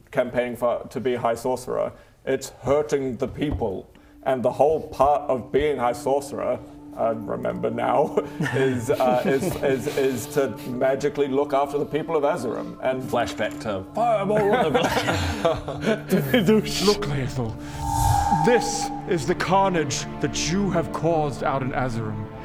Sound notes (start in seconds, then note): 17.6 doosh!; 17.6 whoosh